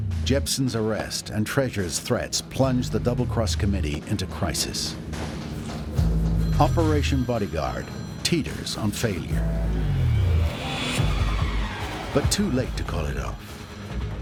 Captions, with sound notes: Jebsen’s arrest and Treasure's threats plunge the Double Cross committee into crisis. [phone rings] Operation Bodyguard teeters on failure. But too late to call it off.